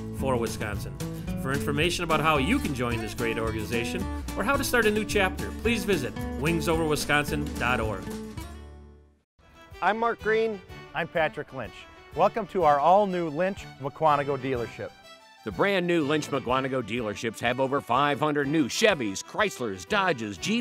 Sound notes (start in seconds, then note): none